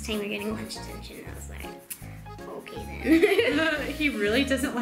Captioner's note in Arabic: يضحك